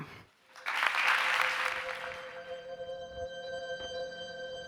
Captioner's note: audience applauding